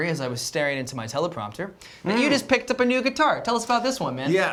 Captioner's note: none